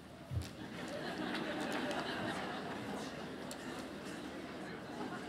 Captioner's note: laughter